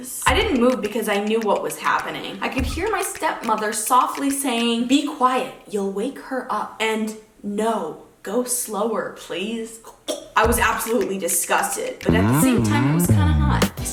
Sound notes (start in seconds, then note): 9.8 gags